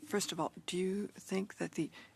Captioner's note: speaking French